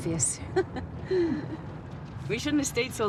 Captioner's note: Ruth laughs